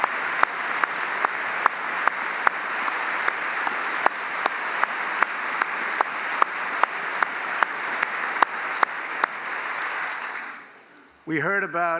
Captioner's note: applause